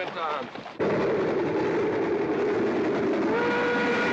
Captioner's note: train rumbling; train whistle blaring